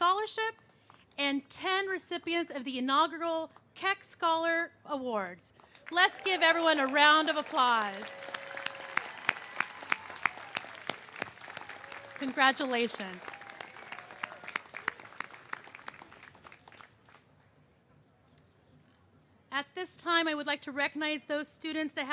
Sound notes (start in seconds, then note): 8.4 cheers and applause